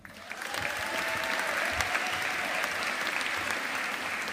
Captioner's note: audience applauding